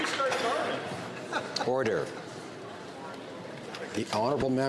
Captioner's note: some Applause